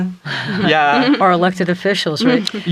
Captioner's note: chuckles